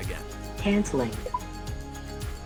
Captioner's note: electronic Voice; instrument panel beeps